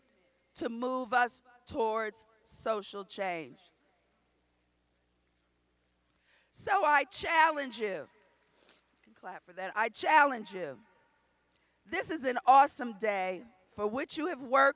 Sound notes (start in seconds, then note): none